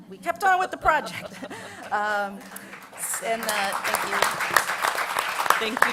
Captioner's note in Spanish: Aplausos